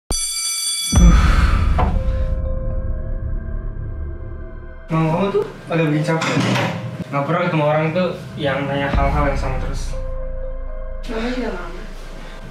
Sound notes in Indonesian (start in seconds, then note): 0.1 bel sekolah berdering; 1.1 bernafas